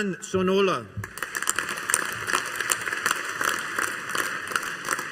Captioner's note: audience applauding